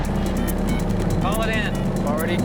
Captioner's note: touch-tones beeping